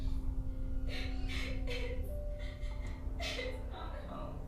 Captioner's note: gentle tense music; victim sobbing